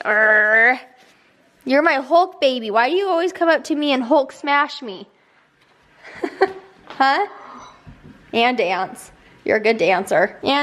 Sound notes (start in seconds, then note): 6.0 laughs